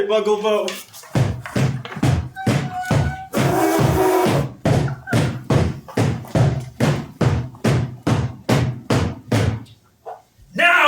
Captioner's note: drumbeats. HOSTESS cries and blows nose loudly